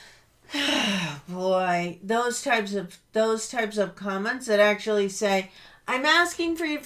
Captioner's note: loud sigh